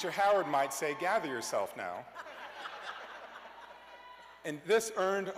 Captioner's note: cheers and applause